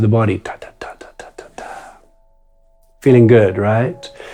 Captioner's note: imitates drum music